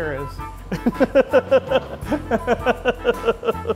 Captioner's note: laughing